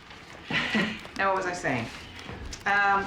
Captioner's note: laughs